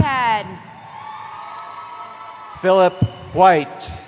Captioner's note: cheering